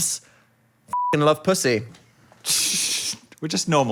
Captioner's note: beeping